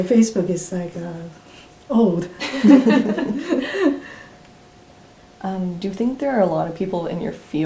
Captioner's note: all laugh